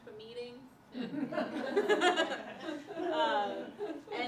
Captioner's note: laughter